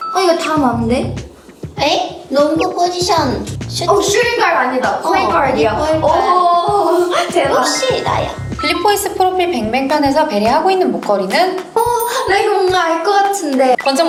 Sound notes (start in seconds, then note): 6.1 impressed